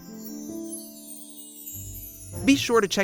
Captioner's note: chimes